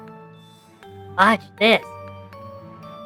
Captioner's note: whispering